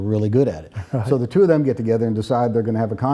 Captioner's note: softly chuckles